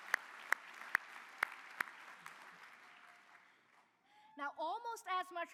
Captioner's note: cheers and applause